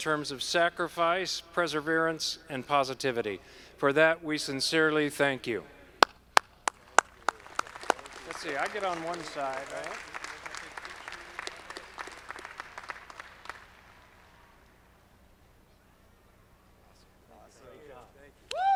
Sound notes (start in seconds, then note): 6.8 audience clapping; 10.4 audience clapping